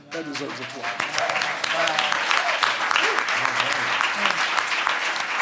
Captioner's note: everyone applauds